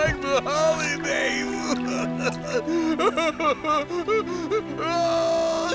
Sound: crying

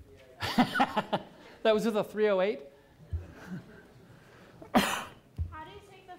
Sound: laughs

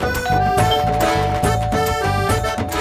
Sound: door bell ringing

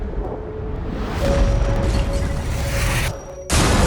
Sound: explosion blasts; glass shatters

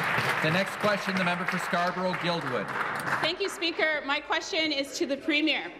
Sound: applause

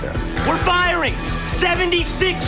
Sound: shouting orders

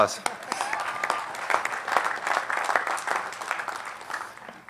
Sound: applause

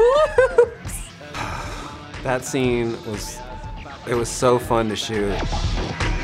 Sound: sighs

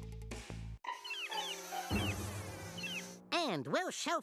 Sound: flies buzzing

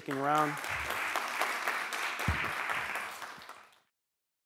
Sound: applause

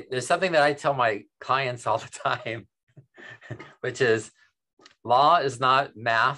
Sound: chuckles

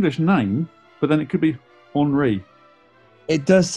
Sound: french pronounciation

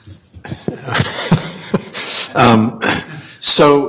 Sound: laughing

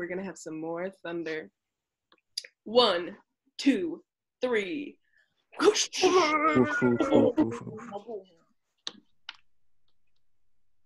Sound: group makes thunder sounds

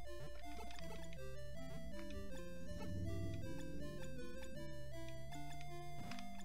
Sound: motorcycle driving

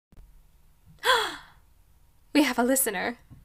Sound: gasp of pleasant surprise

